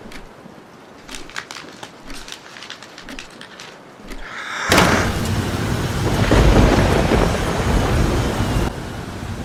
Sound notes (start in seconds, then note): 4.6 door Slamming and thunder